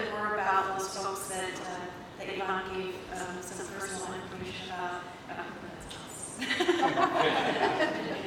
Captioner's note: laughter